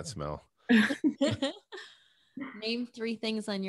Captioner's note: laughs